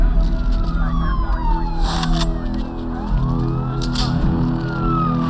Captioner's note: police chatter, sirens